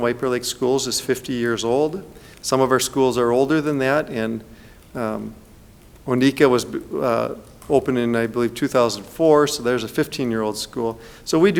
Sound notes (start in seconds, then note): none